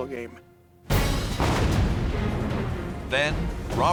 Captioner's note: explosion